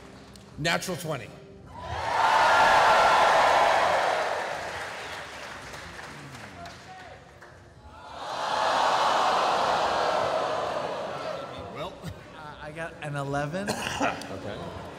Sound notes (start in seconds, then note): 1.7 cheering; 5.4 groaning